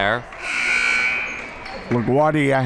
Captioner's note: buzzer rings